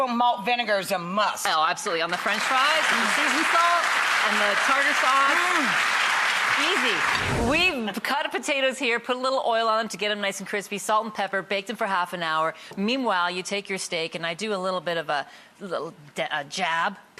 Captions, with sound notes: Malt vinegar is a must! Oh, absolutely. On the french fries. (applause) Season salt. And the tartar sauce. Mmmm! Easy! We've cut up potatoes here. Put a little oil on them to get them nice and crispy. Salt and pepper. Baked in for half an hour. Meanwhile, you take your steak, and I do a little bit of a jab.